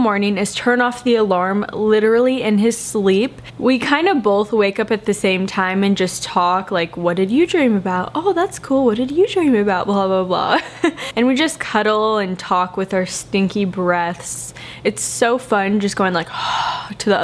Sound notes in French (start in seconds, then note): 10.5 rires